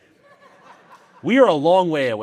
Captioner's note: audience laughing